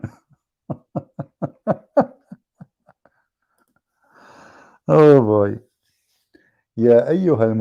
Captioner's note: Ketawa